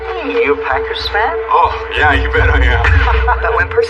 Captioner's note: chuckles